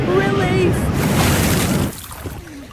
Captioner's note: water releases from the bucket